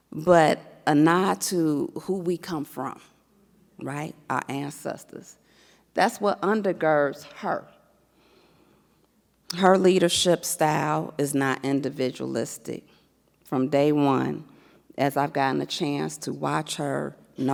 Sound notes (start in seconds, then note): none